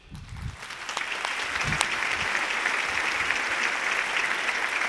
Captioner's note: audience applauding